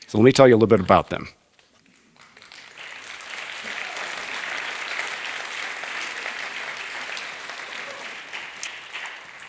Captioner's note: applause